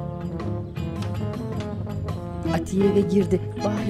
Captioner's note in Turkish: Kapı açılma sesi